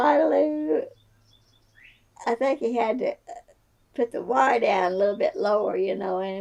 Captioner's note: laughs